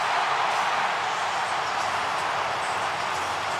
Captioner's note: crowd cheering